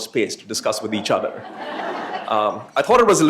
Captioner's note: laughter